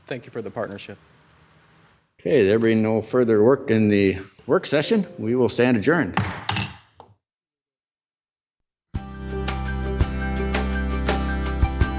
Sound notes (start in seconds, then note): 6.1 gavel bams; 9.1 upbeat music